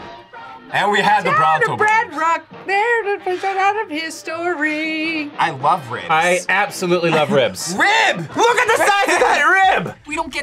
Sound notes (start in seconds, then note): 7.8 laughs